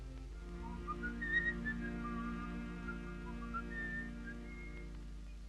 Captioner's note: Philip whistles jauntily